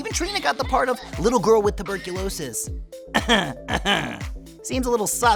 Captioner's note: coughing